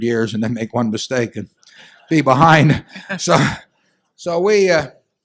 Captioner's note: laughter